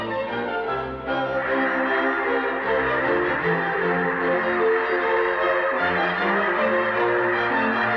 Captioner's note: geese sounds